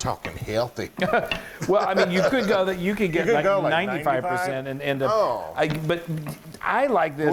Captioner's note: laugh